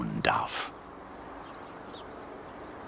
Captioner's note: birds chirping